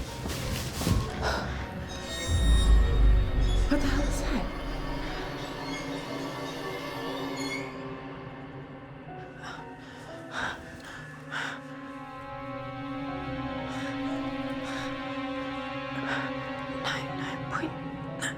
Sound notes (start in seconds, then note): 2.3 sinister music; 2.3 wheels squeaking; 9.3 Claire breathing heavily; 14.4 suspenseful music